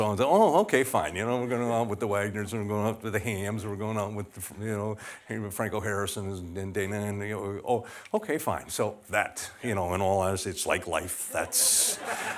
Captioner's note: laughter